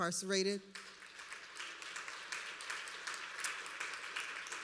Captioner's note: applause